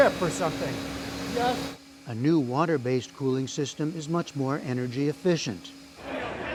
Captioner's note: voice-over